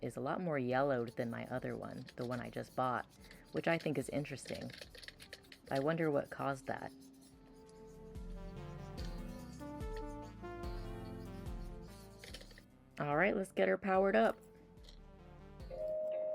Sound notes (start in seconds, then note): 7.4 synth music continues; 9.5 sounds of cleaning the robot